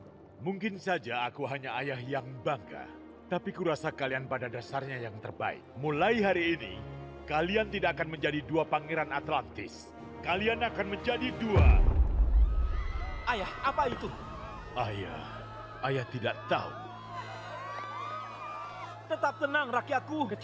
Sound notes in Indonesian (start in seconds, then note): 11.3 kerumunan berteriak; 11.6 benturan keras; 16.9 kerumunan berteriak